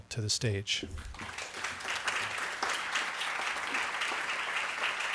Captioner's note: audience applauding